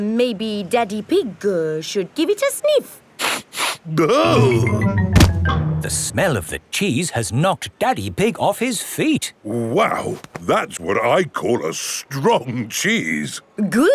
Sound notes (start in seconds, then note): 3.4 sniffs and groans